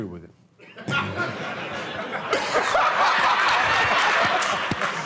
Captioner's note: laughter